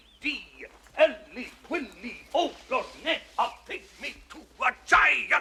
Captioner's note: speaking gibberish